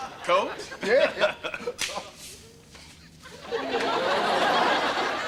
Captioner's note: audience laughter